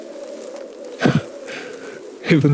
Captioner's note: soft Laugh